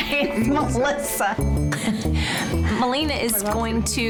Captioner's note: laughs